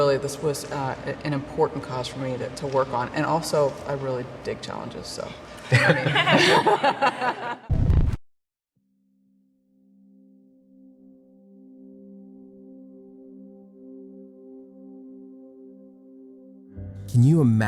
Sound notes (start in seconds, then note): 5.7 everyone laughing; 11.7 somber music